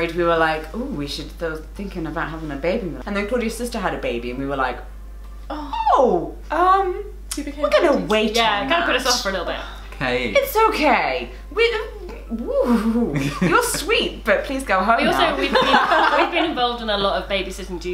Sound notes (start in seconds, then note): 15.1 laughter